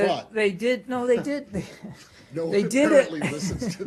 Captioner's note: laughter